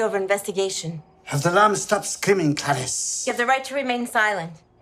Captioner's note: trying to mimic Hannibal Lecter